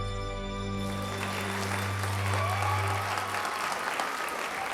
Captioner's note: cheering and applause